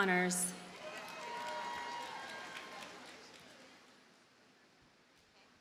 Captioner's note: audience cheers and applauds